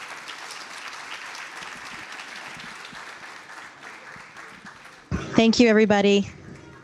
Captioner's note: applause